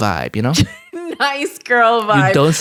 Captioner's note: laughs